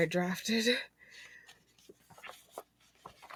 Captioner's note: frantic flipping